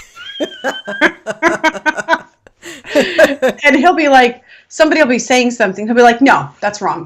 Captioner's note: laughing